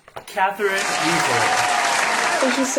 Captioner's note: applause